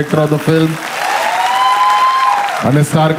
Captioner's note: crowd applauding